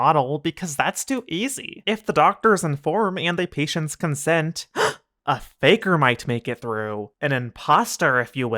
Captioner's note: gasp